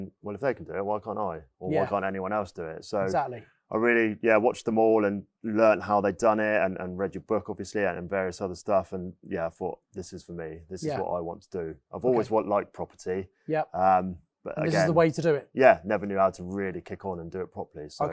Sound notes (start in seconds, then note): none